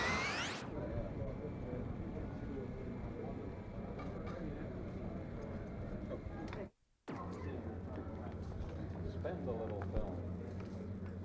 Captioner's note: inside terminal room noise